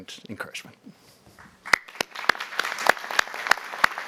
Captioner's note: applause